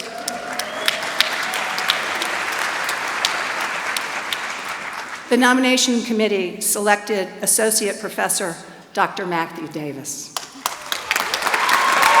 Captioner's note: applause